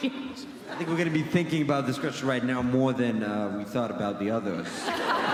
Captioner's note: laughing altogether